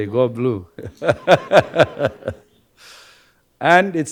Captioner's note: everyone laughing